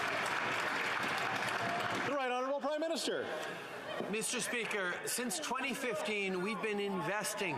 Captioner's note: applause